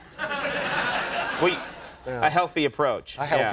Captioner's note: audience laughing